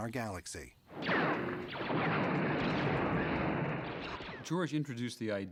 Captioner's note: laser blast sounds